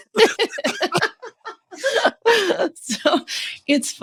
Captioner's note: laughing